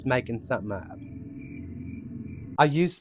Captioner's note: crickets